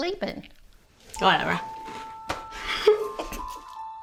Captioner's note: giggles